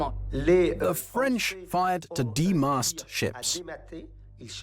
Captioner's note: voiceover